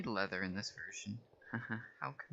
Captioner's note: chuckle